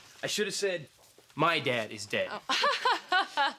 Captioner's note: laughs sarcastically